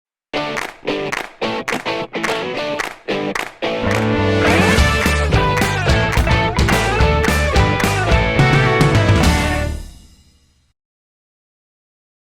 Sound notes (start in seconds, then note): 0.4 claps